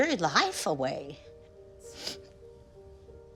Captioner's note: sniffling